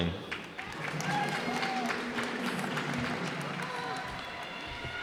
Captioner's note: cheers and applause